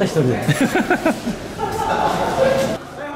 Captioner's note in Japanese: 笑い声